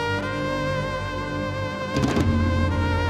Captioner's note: none